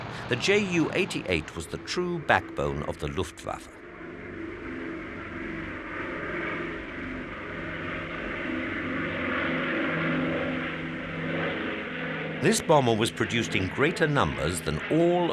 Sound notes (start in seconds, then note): 4.5 plane roaring in the distance